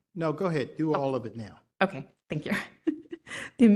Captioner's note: laugh